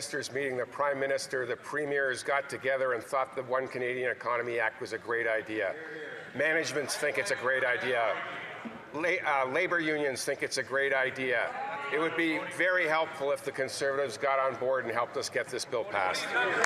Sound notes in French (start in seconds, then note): 0.8 voix de l'interprète